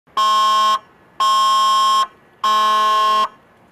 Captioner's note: alarm beeping